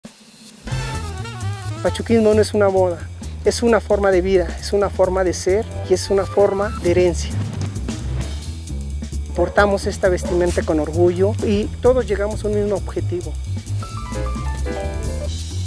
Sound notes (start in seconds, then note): 0.6 big band jazz music; 1.8 speaking foreign language